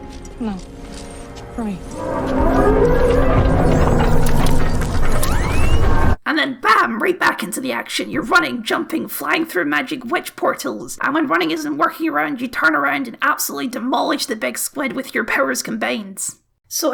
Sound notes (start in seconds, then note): 5.4 concerned Beeps